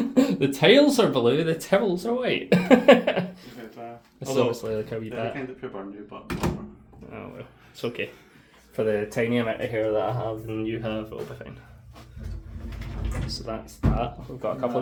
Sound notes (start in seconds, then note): 0.0 laughs